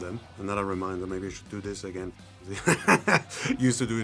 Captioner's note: laughs